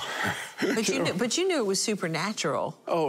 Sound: laughing

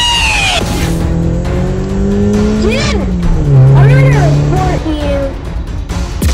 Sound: speeding car sounds

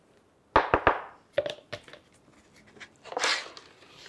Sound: taps wood

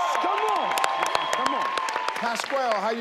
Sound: audience cheer

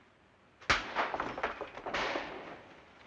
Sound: bullet pierces window

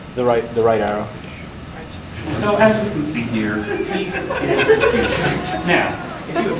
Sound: audience snickering

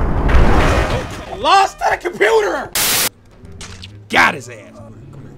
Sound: yelling

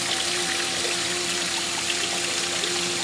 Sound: droning sound

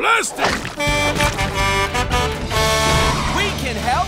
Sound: honking

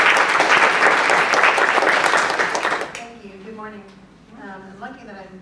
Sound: applause

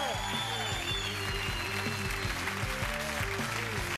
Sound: cheers and applause

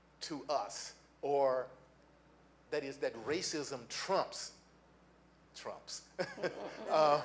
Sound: laughs

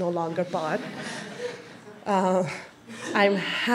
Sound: audience laughs

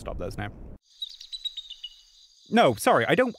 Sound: birds chirping

